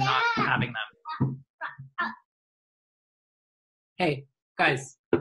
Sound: child chattering

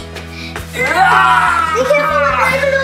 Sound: yells

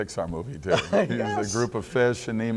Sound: laughs

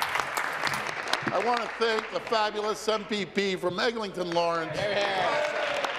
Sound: applause

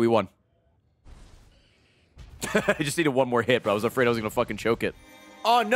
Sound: laughs

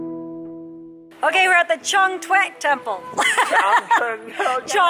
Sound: laughs

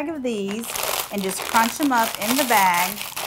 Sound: bag crunching

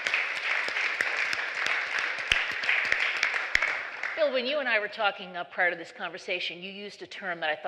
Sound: applause

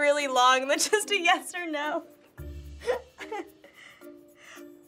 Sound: laughs

